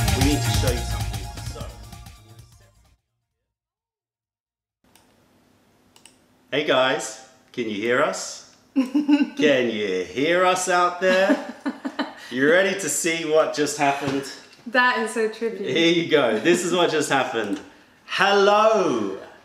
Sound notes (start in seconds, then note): 8.8 laughter; 11.0 laughter